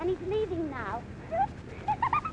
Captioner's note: laughs